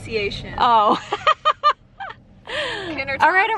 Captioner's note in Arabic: يضحك